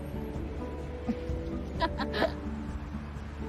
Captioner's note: laughs